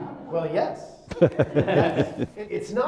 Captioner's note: laughter